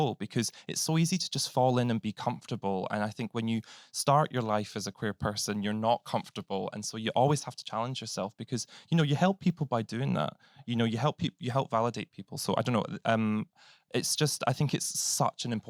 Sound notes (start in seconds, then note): none